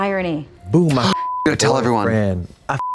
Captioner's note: beep